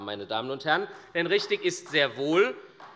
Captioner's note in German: Beifall bei der SPD